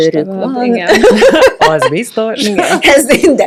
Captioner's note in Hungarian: nevetés